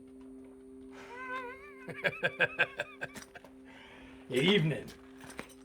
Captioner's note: laughs heartily